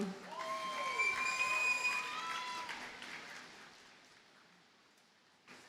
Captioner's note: audience cheers and applauds